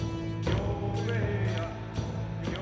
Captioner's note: men chanting